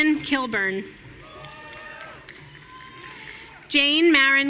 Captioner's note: audience cheering